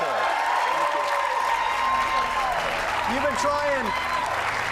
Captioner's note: cheers and applause